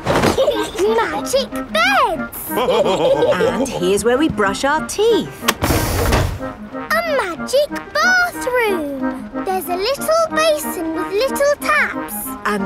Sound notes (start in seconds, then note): 0.2 laughing; 2.4 all laughing